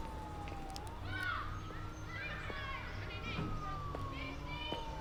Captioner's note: neighbors chattering